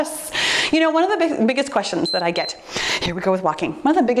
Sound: timer beeps

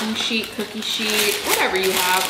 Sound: parchment paper rustling

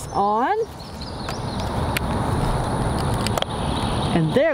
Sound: clicking on

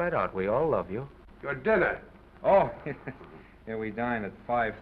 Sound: chuckles

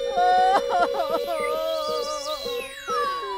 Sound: sobbing

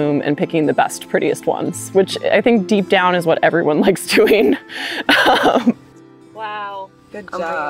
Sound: chuckles

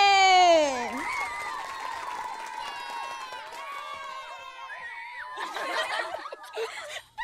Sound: audience cheers and claps

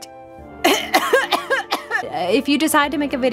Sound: coughs

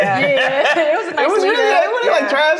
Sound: laughing

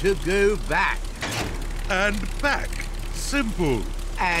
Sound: lever clunks

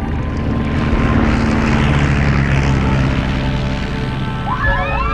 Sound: plane rumbling; all cheering

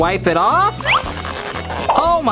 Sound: cartoonish stretching

